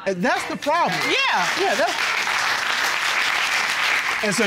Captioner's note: audience applauding